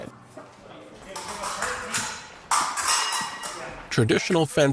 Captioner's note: swords clanking